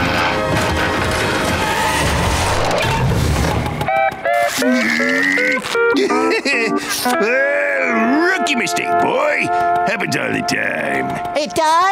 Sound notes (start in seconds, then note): 0.0 tires screeching; 4.5 grunting